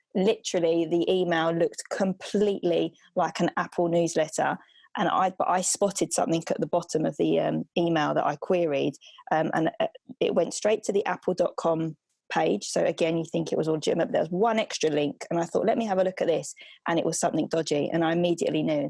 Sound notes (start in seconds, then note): none